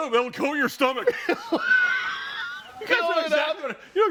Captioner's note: all laughing